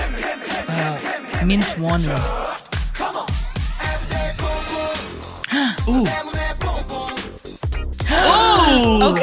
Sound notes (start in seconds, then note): 5.4 gasps; 8.0 gasps